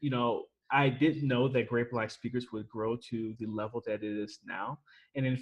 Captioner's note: none